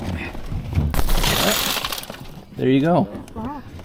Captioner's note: glass shattering